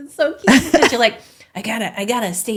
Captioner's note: laughing